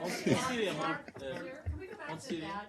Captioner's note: laughter